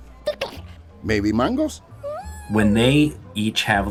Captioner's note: Vivo chatters; Vivo oohs